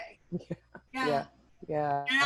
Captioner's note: chuckling